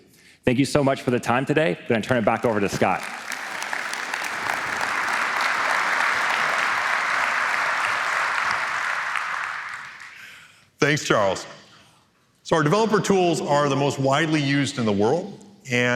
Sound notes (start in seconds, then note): 2.4 applause